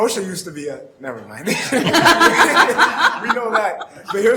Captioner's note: all laughing